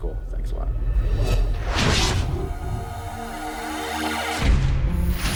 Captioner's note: whooshes and bang; intense guitar music